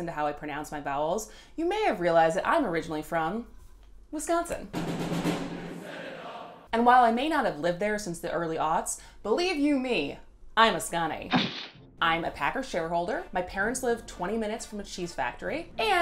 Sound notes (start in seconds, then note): 4.7 drumming; 11.3 stamping